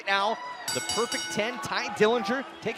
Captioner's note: bell ringing